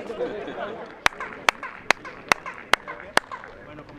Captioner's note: echoing clapping